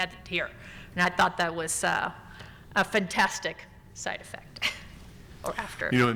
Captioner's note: laughs